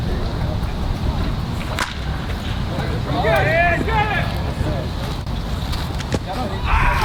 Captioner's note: in-field chatter